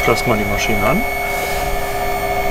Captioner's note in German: Motorengeräusch